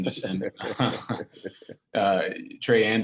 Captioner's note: laughs slowly